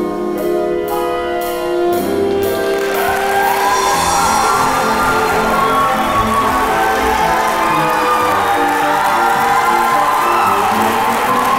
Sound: applause

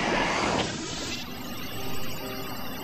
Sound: electric whir

